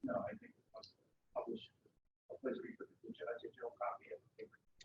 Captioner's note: speaking away from mike